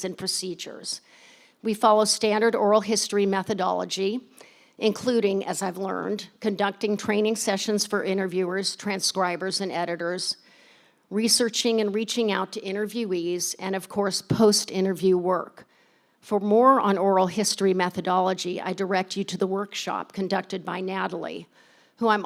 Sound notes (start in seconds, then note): none